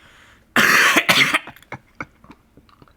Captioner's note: coughs